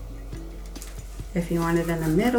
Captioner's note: stencil swishing